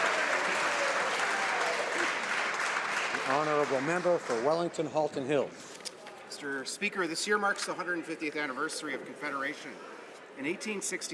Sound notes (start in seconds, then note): 2.1 some Applause